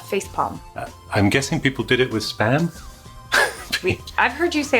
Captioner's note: chuckles